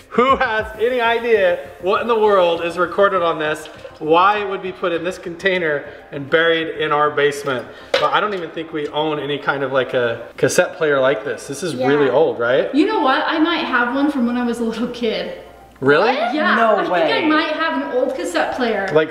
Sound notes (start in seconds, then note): 7.8 metal clatters